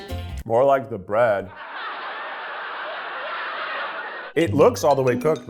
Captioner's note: audience laughs